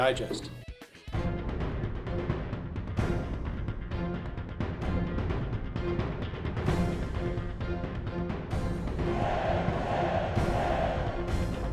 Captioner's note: and cheering